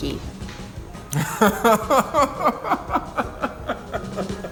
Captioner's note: laughs